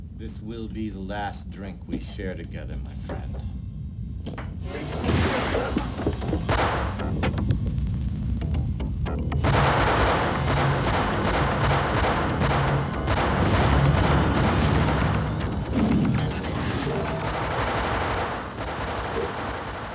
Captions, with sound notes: - This will be the last drink we share together, my friend. (gun firing) (dramatic music) (guns firing) (guns firing)